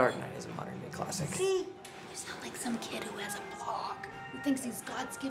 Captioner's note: whispering